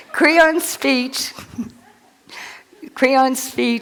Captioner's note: laughter